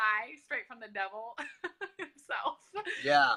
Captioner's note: laughs